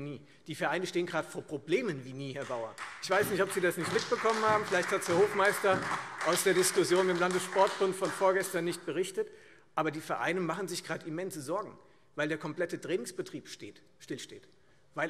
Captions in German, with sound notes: Die Vereine stehen vielmehr zurzeit vor Problemen wie nie zuvor, Herr Bauer. [Beifall Freie Demokraten und vereinzelt SPD] Ich weiß nicht, ob Sie das nicht mitbekommen haben. Vielleicht ist Ihnen das nicht aus der Diskussion mit dem Landessportbund berichtet worden. Die Vereine machen sich gerade immense Sorgen, weil der komplette Trainingsbetrieb stillsteht.